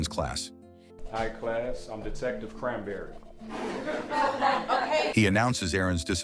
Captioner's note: laughts